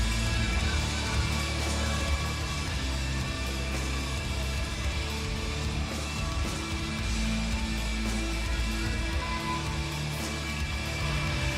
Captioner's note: crowd chatter